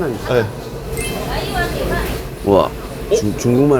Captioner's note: chinese conversation